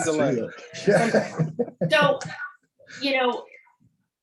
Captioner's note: all laugh